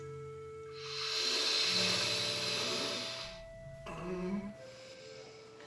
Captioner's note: exhaling; grunting